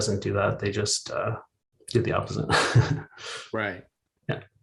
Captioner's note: laughs